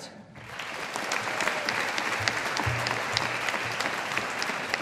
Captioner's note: audience applauding